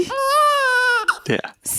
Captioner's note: baby crying